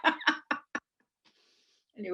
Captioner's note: laughter